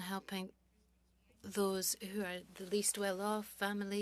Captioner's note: speaking french